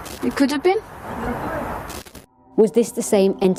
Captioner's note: disembodied Voice